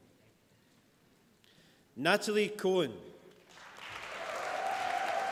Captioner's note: applause